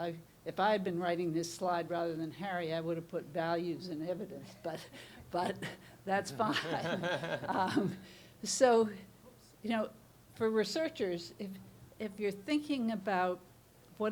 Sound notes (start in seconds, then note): 6.1 laughing